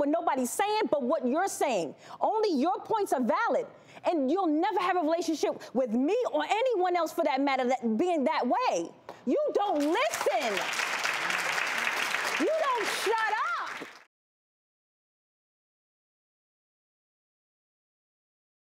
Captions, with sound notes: nobody's sayin' but what you're saying. Only your points are valid. You'll never have a relationship with me or anyone else for that matter that, being that way! You don't listen! (applause) You don't shut up!